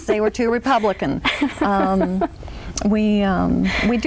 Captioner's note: laughs